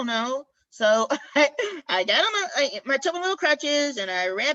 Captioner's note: laughter